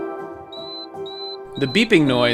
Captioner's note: rocket beeping